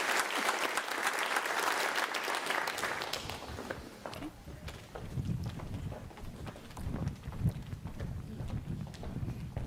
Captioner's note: applause